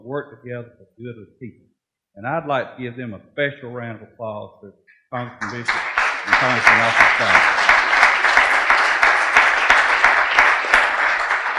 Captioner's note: clapping